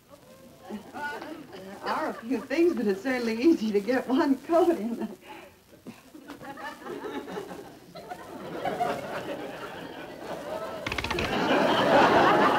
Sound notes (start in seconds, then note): 5.8 audience Laughs